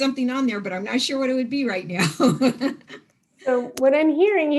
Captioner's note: laughs